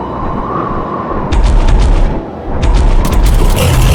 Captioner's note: steps thudding; gun blasting; beast growling